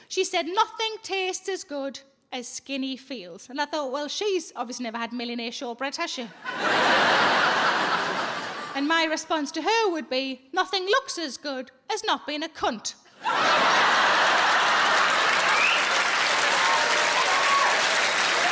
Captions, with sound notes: She said, "Nothing tastes as good as skinny feels." And I thought, well, she's obviously never had millionaire shortbread, has she? (audience laughing) And my response to her would be, "Nothing looks as good as not being a cunt." (audience laughing and cheering)